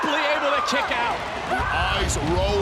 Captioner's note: Gonzalez screams